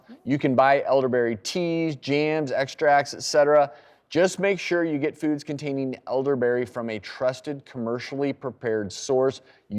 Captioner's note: none